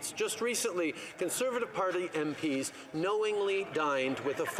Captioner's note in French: voix de l'interprète